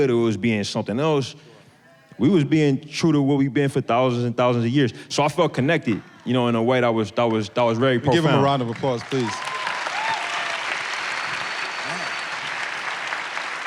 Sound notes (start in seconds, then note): 9.7 audience applauding